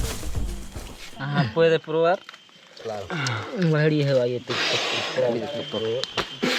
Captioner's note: speaking in foreign language